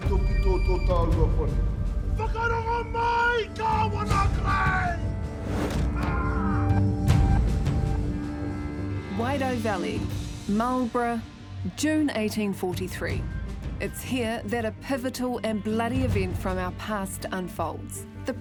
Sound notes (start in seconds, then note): 5.9 warriors yell